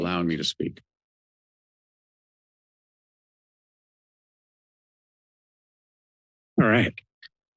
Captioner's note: silence